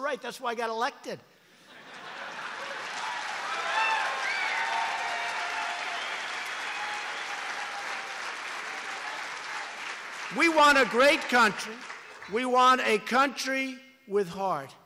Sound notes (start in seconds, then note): 1.5 laughter and applause